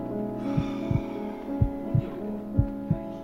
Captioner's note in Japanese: 深いため息